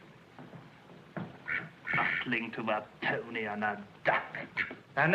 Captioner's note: quacks